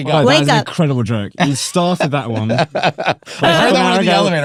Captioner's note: laughing